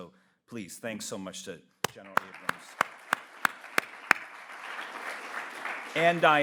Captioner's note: applauds; audience applauds